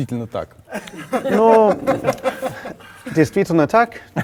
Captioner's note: laugh